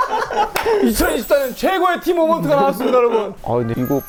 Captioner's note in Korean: 긁적